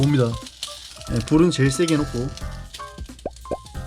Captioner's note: strong fire